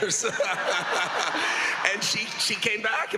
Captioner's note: laughs